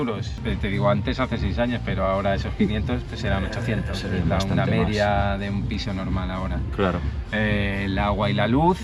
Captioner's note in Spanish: carraspeo